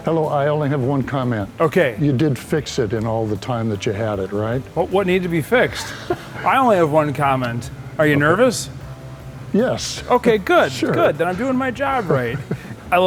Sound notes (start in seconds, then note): 5.6 laughs